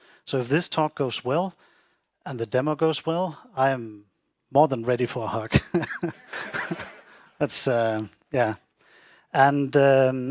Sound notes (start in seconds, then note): 5.6 all laughing